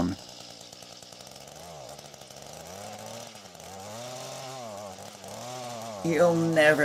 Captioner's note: engine revving sounds